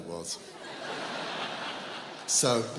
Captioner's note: audience laughs